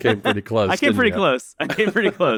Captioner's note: laughs